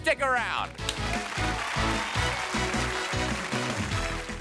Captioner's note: theme music; audience applause